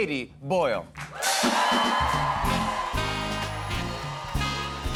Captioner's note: cheers and applause